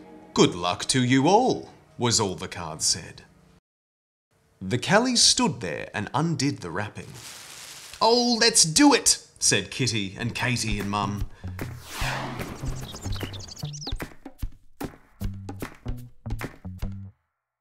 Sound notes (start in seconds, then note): 7.0 plastic crinkling; 12.3 birds chirping; 12.6 upbeat music